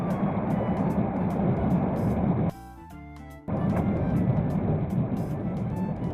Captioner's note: A strong wind is blowing